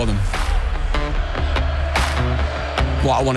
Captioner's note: crowd noise